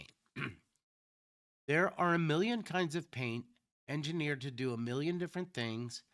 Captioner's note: clears throat